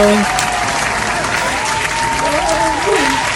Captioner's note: applause